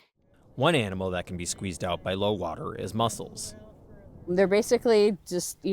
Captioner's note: voice-over